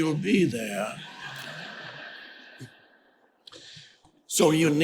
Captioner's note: audience laughing